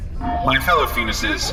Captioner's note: talking into microphone